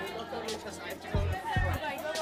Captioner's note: school Sounds